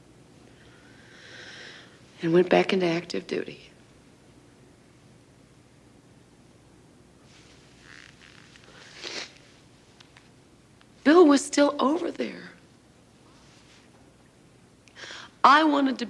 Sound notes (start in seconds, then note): 3.9 sniffles